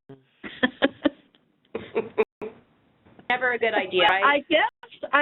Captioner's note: all laughing